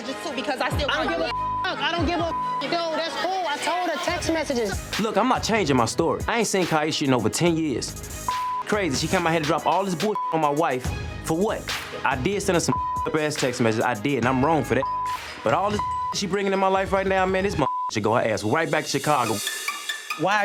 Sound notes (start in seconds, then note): 1.2 beep; 8.2 beep; 12.7 beep; 14.8 beep; 17.5 beep